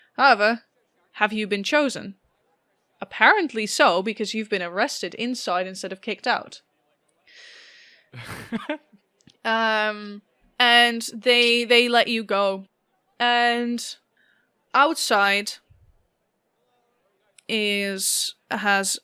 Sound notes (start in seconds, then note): 8.1 laughter